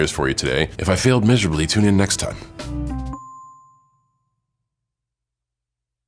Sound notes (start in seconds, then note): 2.8 bright rhythmic music; 3.1 chime dinging